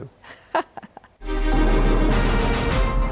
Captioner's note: laughs; upbeat music